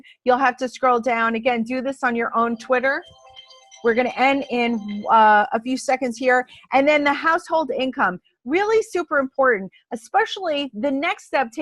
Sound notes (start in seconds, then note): 2.3 alarm sounds